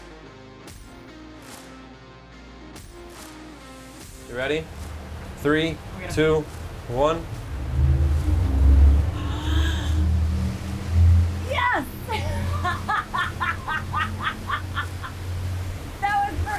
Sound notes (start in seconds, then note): 0.1 upbeat music; 8.5 engines revving; 11.5 laughing